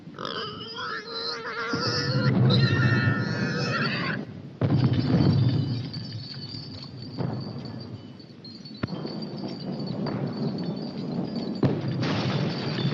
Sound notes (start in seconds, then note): 4.6 jingling; 11.5 louder explosion